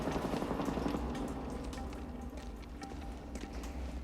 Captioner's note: water Dripping